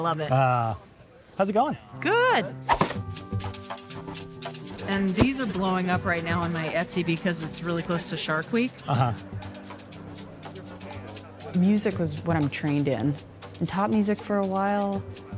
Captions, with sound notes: - He's in cosplay. I love it. - Ah, how's it going? - Good. (board thwack) (upbeat music) And these blowing up right now on my Etsy because it's realllly close to Shark Week. (upbeat music) Music was what I'm trained in. I taught music for a while.